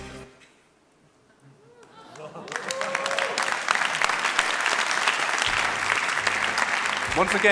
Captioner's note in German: Applaus